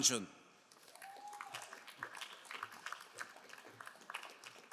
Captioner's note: crowd applauding